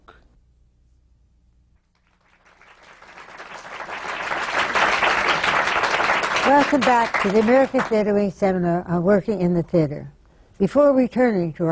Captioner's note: applause